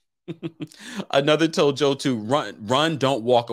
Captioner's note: laughs